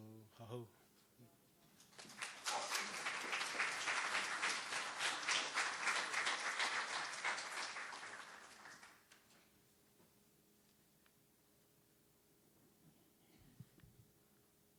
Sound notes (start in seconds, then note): 0.3 speaking Algonquian; 1.9 applause